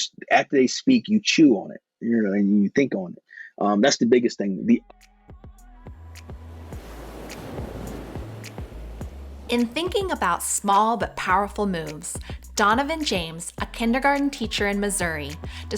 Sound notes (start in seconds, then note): 5.1 gentle upbeat music; 6.1 air whooshing